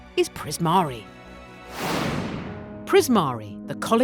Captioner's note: air whooshing